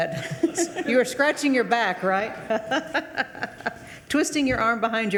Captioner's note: laughs